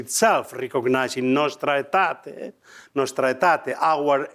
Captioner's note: speaking foreign language